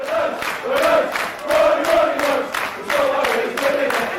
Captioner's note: fans chanting